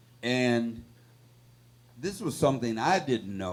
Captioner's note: none